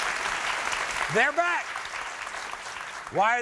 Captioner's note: audience clapping